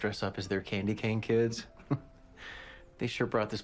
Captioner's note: chuckles